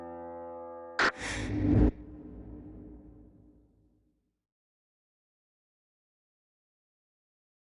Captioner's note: gentle music; pensive music; oxygen hissing